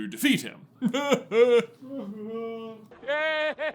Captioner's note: mockingly